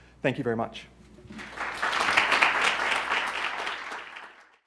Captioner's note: applause